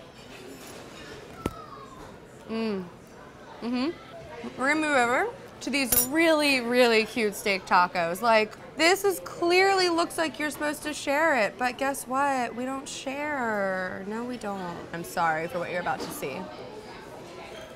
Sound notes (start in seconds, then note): none